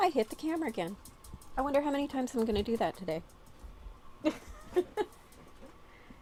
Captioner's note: laughing